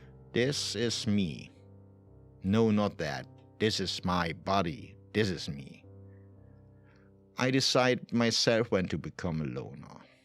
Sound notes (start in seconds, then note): none